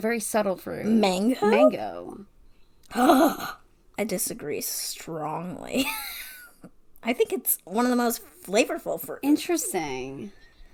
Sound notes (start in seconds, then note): 3.5 gasp